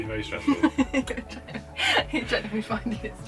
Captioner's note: laughing